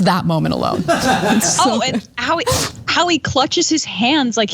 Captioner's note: laugh